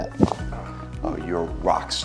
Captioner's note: bone cricks